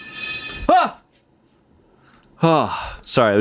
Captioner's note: metal clangs; yells